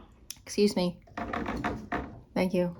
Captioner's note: taps window